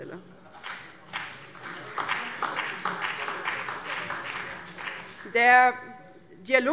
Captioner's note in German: Beifall BÜNDNIS 90/DIE GRÜNEN, SPD, DIE LINKE und vereinzelt CDU